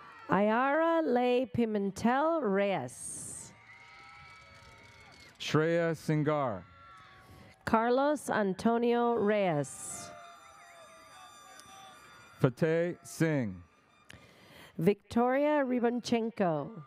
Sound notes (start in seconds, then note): 9.0 audience cheers